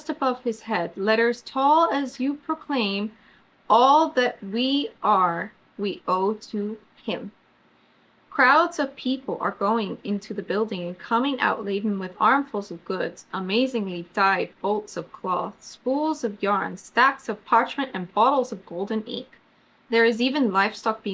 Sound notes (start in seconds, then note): none